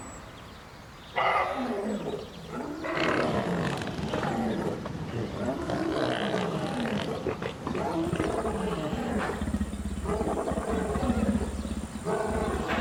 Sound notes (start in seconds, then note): 0.3 distant lion’s roar; 3.6 sea lion grunts; 9.7 distant lion’s roar